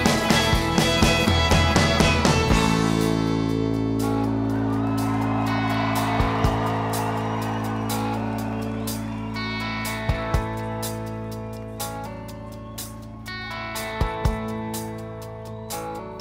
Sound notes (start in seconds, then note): 4.8 crowd cheering